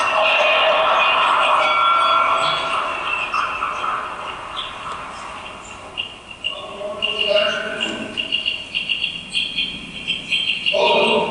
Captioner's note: train station noises